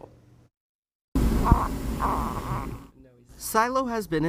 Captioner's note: baby gurgles